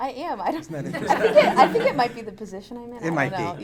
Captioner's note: audience laughing